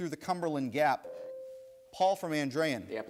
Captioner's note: bell rings